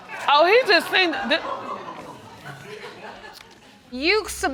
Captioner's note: scattered laughter